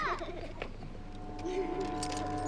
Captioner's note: children laughing